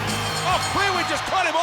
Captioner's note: bell ringing